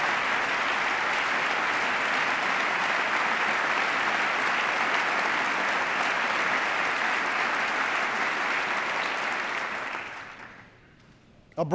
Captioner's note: applause